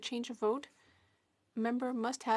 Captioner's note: speaking French